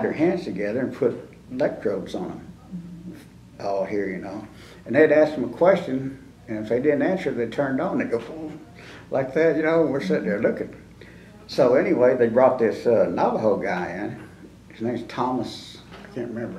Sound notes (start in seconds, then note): 9.8 mimics electricity sound